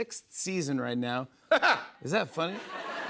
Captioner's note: laughs; laughter